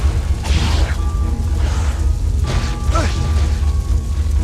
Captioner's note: weapons clanking; weapons whooshing